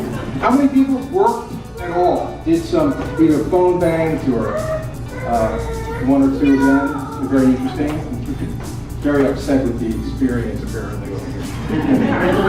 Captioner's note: laughter